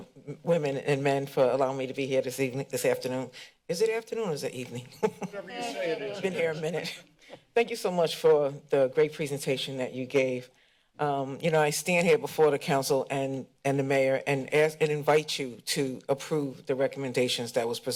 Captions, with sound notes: women and men, for allowing me to be here this evening, this afternoon. Is it afternoon, or is it evening? [laughter] - Whatever you say it is. - It's been here a minute. Thank you so much for the great presentation that you gave. Um, you know, I stand here before the council and-and the Mayor and ask and invite you to approve the recommendations that was